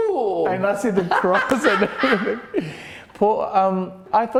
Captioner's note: laughing